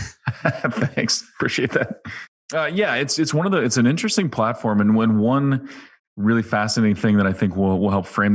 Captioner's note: laughs